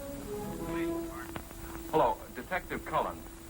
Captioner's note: on phone